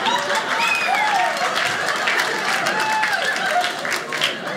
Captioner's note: audience laughing; audience cheering